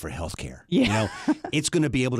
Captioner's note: laughs